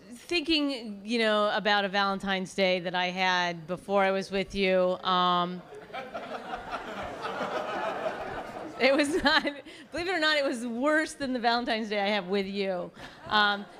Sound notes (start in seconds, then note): 5.6 laughter; 9.6 laughs